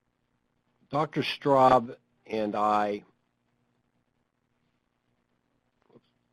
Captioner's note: silence